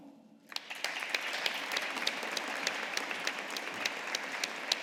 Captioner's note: audience applauding